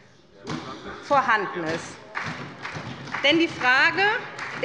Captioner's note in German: Beifall bei der SPD